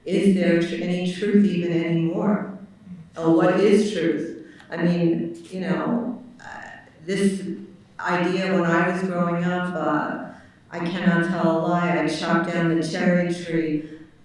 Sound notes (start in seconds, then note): none